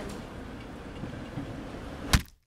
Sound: thwack

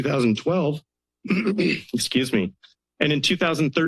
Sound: clears throat

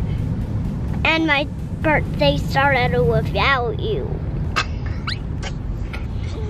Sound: giggles

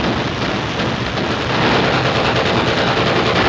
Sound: rapid gunfire

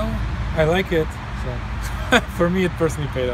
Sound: laughs

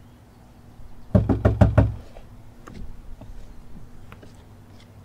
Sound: man knocking

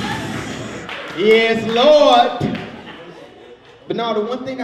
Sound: audience applauds

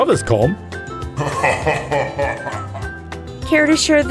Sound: centaurs laughing

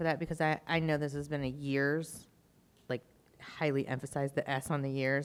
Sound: none

